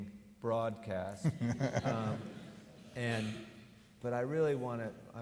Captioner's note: laughs